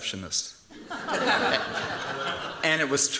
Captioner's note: laughter